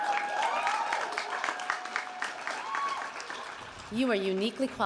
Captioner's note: audience cheering and applauding